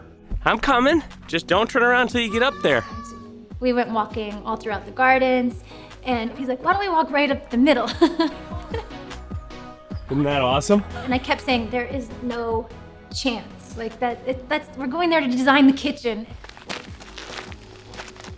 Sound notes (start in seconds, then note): 7.7 laughs